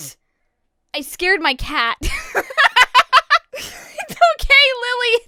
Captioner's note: laughs